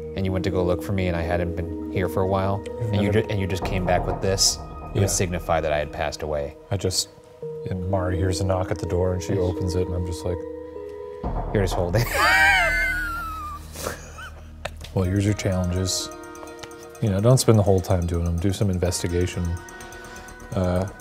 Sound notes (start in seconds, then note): 12.0 chuckling